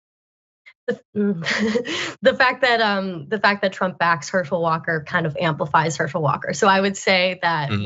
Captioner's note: laugh